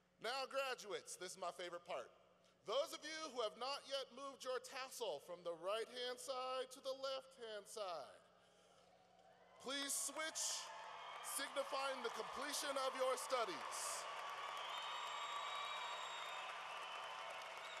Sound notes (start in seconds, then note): 13.7 cheering